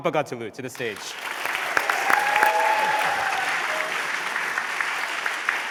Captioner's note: applause